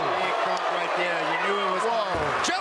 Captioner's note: cheering